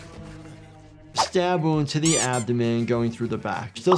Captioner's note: flesh squishing; toy squeaking